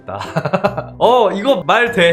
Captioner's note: laughing